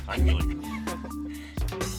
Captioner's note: laughter